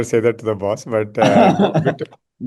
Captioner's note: laughs